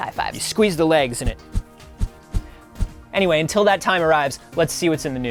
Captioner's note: wooshing